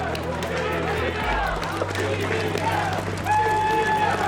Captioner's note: crowd chanting